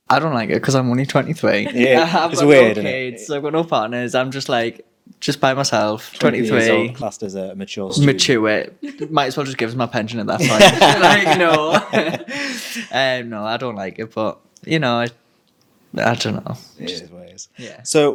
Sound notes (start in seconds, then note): 10.4 group laughing; 10.4 laughing